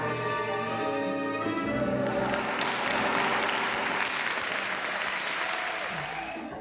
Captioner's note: applause